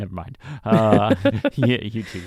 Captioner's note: laughing